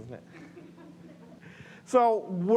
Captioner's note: audience chuckling